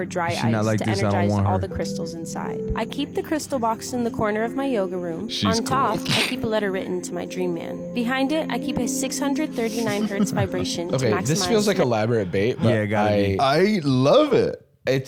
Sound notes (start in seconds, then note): 5.4 laughs